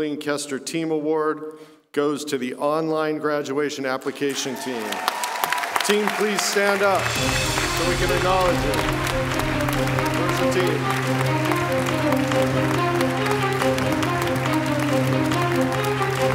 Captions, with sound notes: CLEARLY A LOT OF TEAM WORK HERE AT CSUN. SO NOW I'M PLEASED TO ANNOUNCE THE 2018 JOLENE KESTER TEAM AWARD GOES TO THE ONLINE GRADUATION APPLICATION TEAM. [APPLAUSE] TEAM, PLEASE STAND UP, SO WE CAN ACKNOWLEDGE YOU.